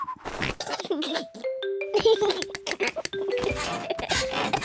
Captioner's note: giggles